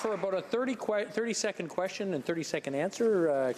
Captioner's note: some Applause